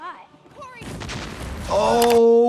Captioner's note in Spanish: explota una bomba